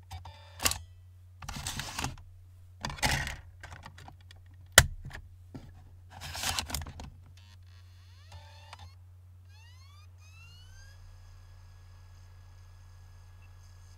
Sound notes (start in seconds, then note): 0.0 papers rustling, CD case opening; 2.8 papers rustling, CD case opening; 4.4 disc drive opening, closing; 9.4 disc drive whirring